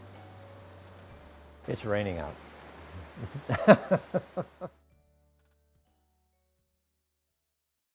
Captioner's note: laughs